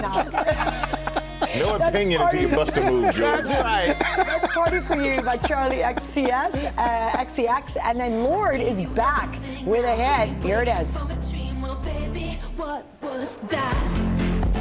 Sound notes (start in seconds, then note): 5.1 laughter